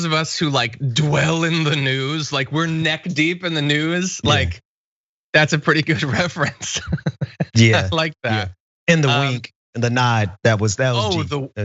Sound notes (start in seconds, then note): 5.8 laugh